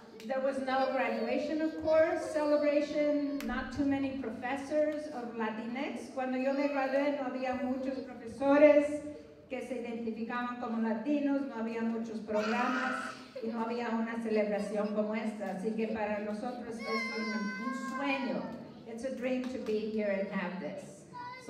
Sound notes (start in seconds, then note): 6.0 non-english speech